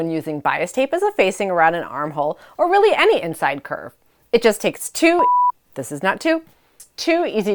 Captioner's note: beep